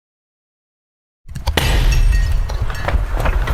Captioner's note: glass breaking